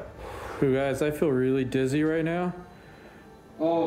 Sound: exhales

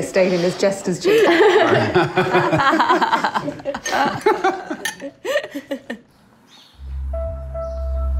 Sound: laughs

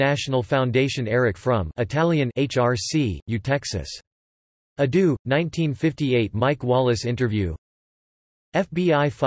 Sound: Italian

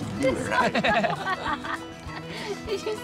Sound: laughter

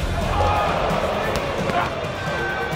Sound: crowd gasps

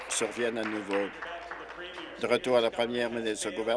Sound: applause

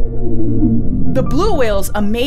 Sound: blue whale call

